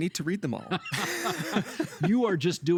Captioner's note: both laughing